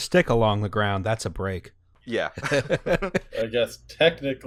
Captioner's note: laughter